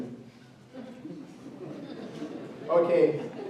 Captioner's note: chuckling